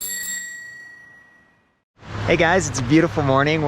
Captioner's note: bike bell rings